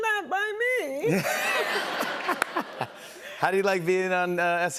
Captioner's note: laughter